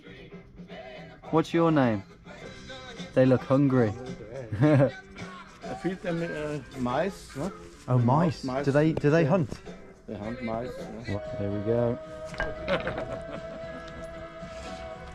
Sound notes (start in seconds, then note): 4.3 chuckles; 12.5 laughs